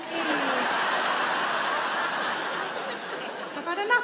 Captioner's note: audience laughing